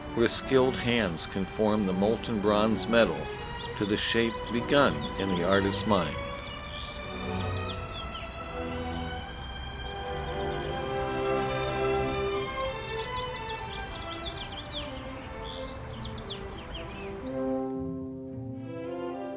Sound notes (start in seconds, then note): 7.4 birds twittering; 7.4 moving orchestral music; 17.1 tense orchestral music